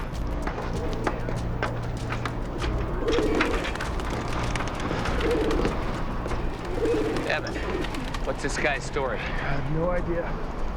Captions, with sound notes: (pigeon cooing) Evan, what's this guy's story? - I have no idea.